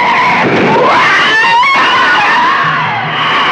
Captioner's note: screaming And Screeching